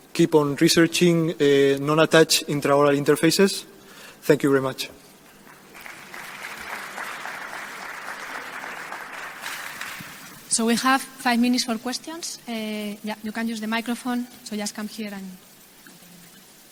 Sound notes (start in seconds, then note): 5.3 audience clapping